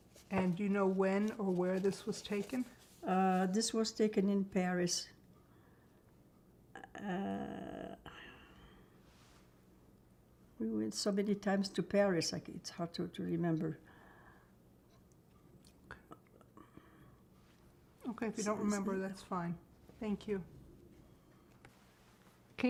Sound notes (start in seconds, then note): 4.9 pauses 6 seconds